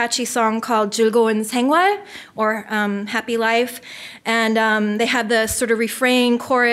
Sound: foreign language

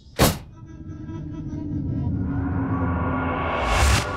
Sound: pulsing noises

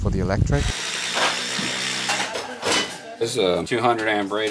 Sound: drilling sounds

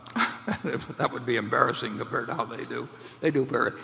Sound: laughs

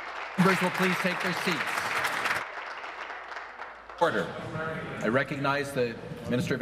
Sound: applause

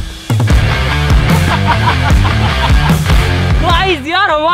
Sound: laughing

